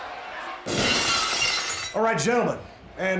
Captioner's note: glass shatters